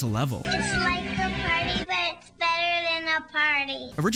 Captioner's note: in a Child’s Voice